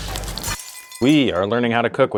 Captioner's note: glass shattering